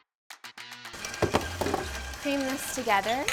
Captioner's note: mixer whirring